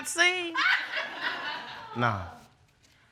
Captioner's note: audience laughing